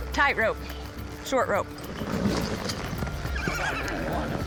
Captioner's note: horse whinnies